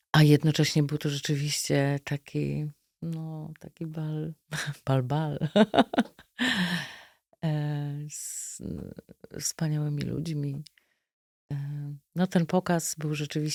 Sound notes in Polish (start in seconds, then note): 5.4 śmiech; 6.4 wciągnięcie powietrza